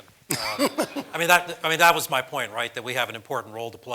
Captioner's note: laugh